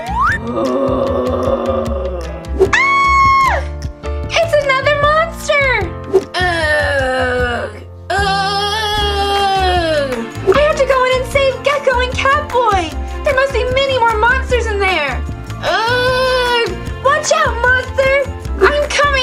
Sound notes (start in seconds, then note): 2.6 scream